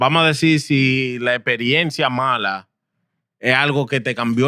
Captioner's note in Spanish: Hablando en idioma extranjero